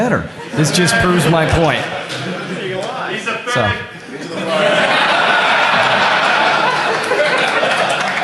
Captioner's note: laughter